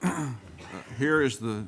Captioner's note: clears throat